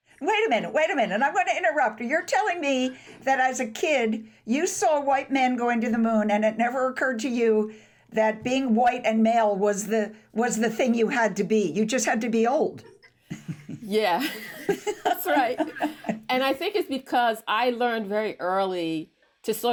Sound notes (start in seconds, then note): 13.2 Lynn laughs; 14.2 laughs